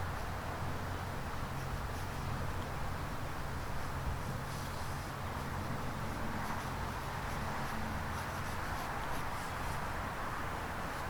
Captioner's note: sketching sounds